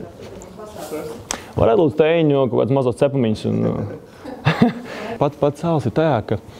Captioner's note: both laugh